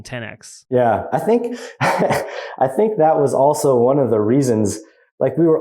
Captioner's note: laughs